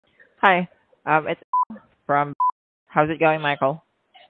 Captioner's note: beep